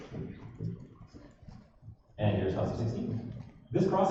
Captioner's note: none